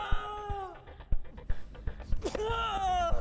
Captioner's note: Hafiq groans